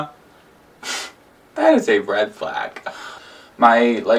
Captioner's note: laughs